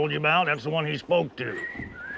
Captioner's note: Bill whistling